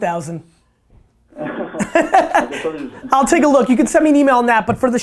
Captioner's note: laugh